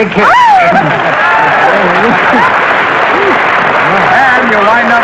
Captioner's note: applause